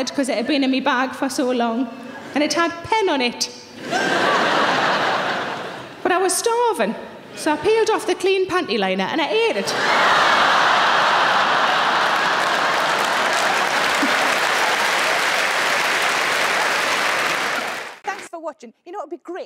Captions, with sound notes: 'cause it had been in my bag for so long and it had pen on it. (audience laughing) But I was starving. So, I peeled off the clean pantyliner and I ate it. (audience laughing) (audience clapping)